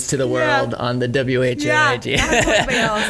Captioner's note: laughs